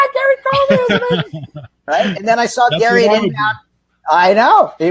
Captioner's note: laughing